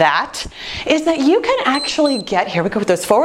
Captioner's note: timer beeps